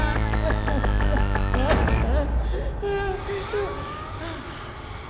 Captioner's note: whimpering